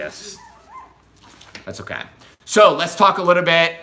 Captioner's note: puppy squeaks